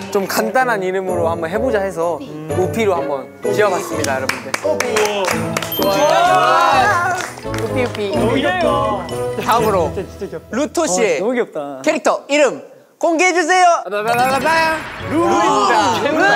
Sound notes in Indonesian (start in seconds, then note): 4.0 tepuk tangan